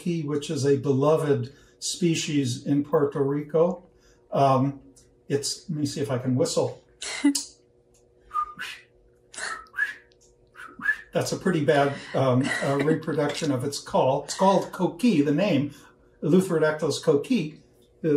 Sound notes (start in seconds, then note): 8.0 whistling